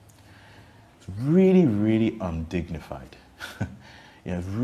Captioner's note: laughs cynically